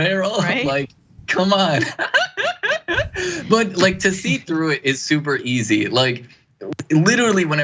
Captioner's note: laugh